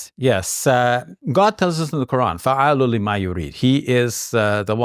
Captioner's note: speaks Arabic